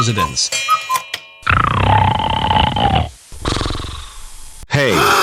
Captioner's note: snoring; gasps